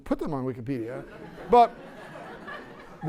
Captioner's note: laughter